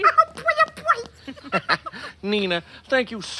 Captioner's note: giggles